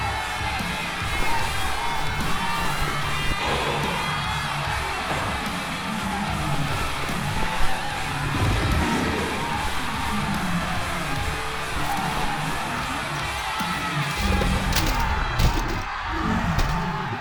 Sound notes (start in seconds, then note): 0.0 flesh squelching; 0.2 muffled rock music; 0.2 people screaming; 9.1 growling; 11.2 muffled rock music; 11.2 people screaming; 14.1 door thudding